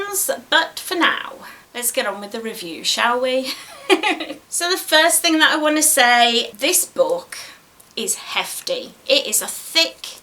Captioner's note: giggles